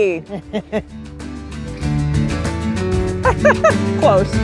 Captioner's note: both laugh